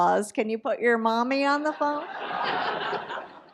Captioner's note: audience laughs